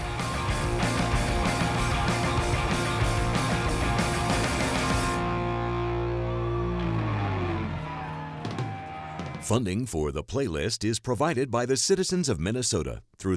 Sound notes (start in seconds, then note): 0.1 rock music; 6.5 cheering